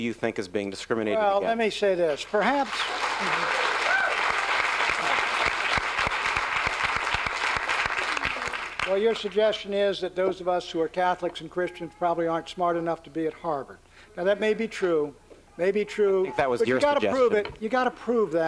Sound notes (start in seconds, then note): 2.2 applause